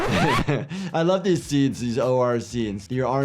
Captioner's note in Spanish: música suave; riendo